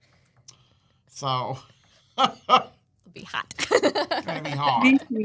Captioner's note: laughs